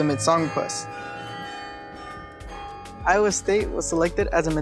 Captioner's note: carillon rings